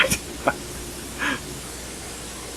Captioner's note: laughs